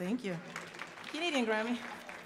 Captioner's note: audience applauding